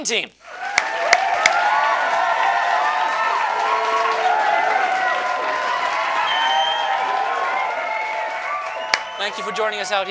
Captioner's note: applause